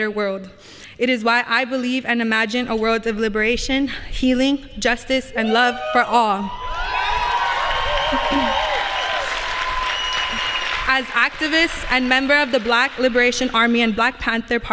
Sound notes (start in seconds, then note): 6.8 applause